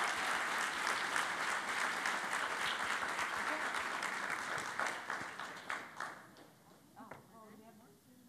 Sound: cheering and Applause

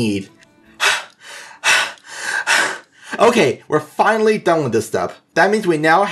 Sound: huff

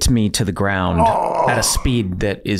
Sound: Rob groans

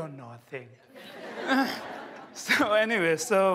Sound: laughter

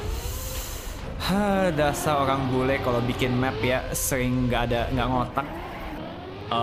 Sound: sighs, speaks indonesian

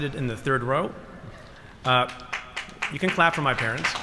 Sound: applause

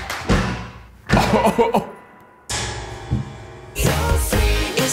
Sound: laughing

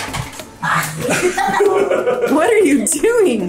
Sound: laughing

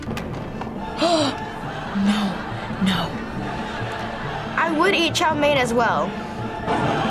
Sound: gasps

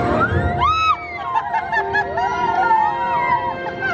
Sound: family laughs

